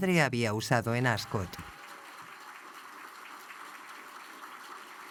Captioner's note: audience applauds